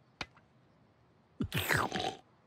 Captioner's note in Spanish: sorbido